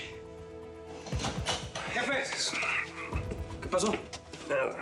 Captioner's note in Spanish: sonido al abrir la puerta